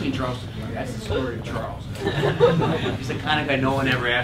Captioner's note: laugh